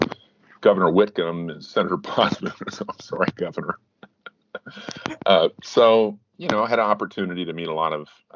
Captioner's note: both chuckling